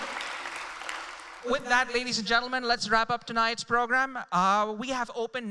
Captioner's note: applause